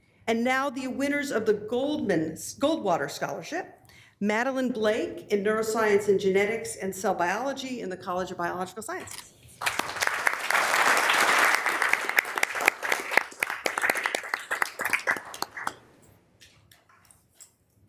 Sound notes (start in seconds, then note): 9.6 members applauding